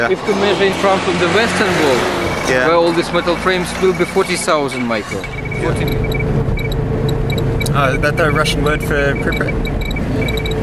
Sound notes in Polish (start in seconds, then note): 6.6 Klikanie liczników Geigera